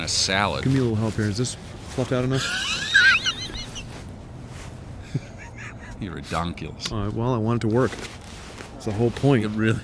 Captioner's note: laughs